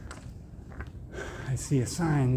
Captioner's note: sigh